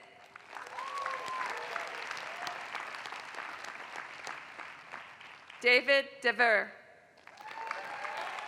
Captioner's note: applause; applause